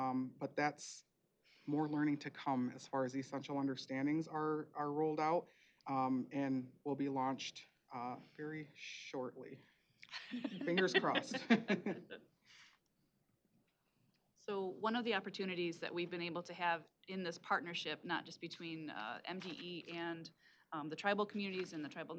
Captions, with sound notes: but that's more learning to come as far as the Essential Understandings are rolled out and will be launched very shortly. Fingers crossed. [laughs] - So one of the opportunities that we've been able to have in this partnership, not just between MDE and the tribal communities and the Tribal